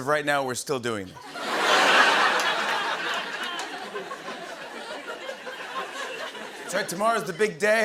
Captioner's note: laughter